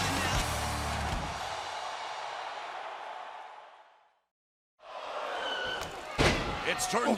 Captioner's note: cheers and applause